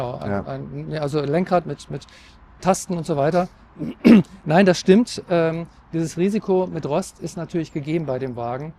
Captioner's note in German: räuspern